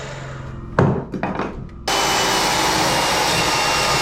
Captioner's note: engine roaring